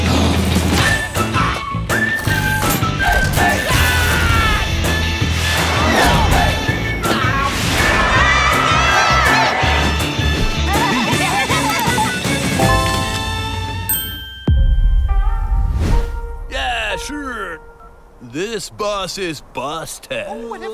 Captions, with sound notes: [theme music playing] Aah! [crowd cheering] [all laughing] Yeah, sure. This bus is busted.